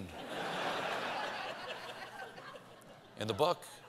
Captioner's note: laughter